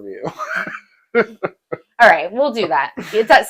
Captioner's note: laughing